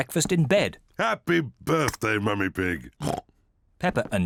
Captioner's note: oinks